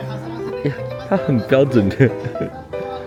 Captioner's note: laughs